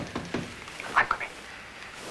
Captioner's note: knocking on door